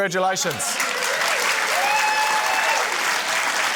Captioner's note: cheering, applause